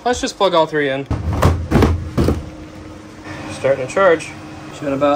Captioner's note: engine revs